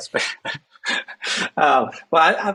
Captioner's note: chuckles